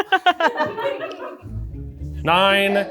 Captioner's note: laughs; crew laughing